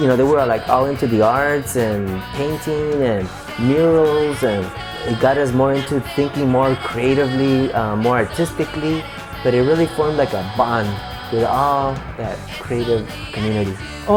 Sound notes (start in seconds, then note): none